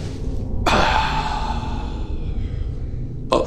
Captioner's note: exhaling